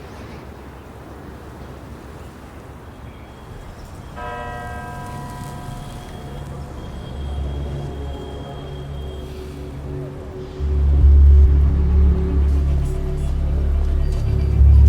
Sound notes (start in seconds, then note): 4.0 bell tolls